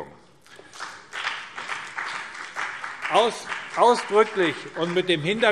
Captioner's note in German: Beifall BÜNDNIS 90/DIE GRÜNEN